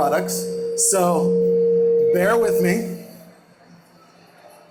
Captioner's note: microphone distortion